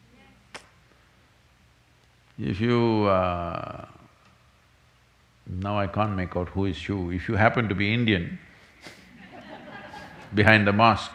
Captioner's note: laughter